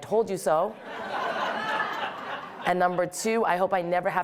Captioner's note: audience laughing